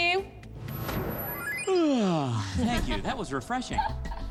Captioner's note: yawns; laughter